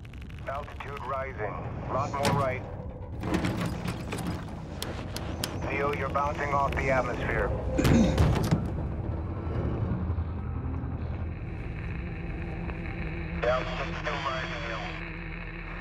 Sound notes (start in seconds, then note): 4.7 switches clicking; 7.7 kicking; 13.4 radio static